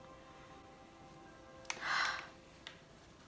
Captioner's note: exhales